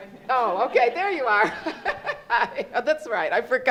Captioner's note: laughs